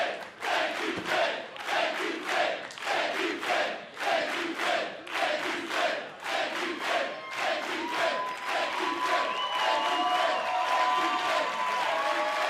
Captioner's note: fans chanting